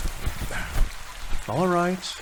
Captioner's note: angry rustling